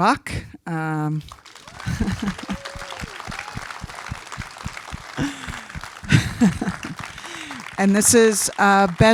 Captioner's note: applause and laughter